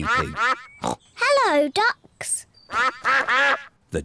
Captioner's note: snorts; ducks quack